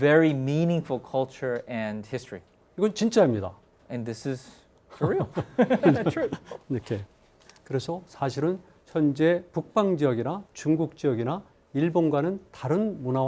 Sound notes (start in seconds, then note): 3.0 speaking in Korean; 5.0 professors laughing; 7.9 speaking in Korean